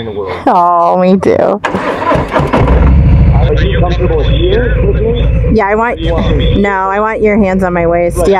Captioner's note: bike starts